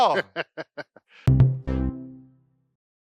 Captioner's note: laughs